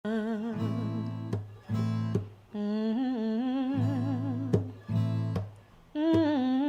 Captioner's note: guitar strumming; humming soulfully